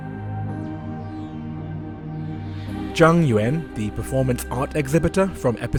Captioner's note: voiceover